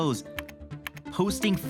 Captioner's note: mouse clicking